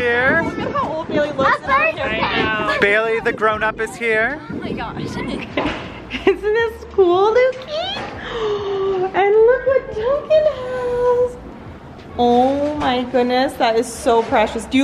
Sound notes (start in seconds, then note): 8.1 gasps